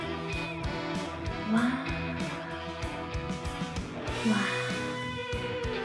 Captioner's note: Baby Yoda sounds